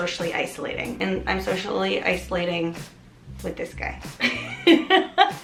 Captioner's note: laughs